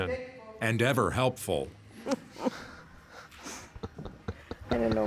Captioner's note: laughter